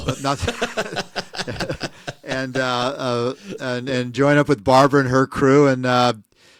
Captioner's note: laughing